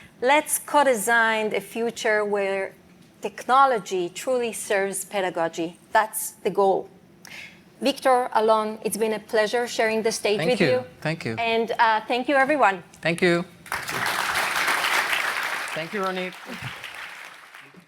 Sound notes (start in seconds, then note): 13.6 applause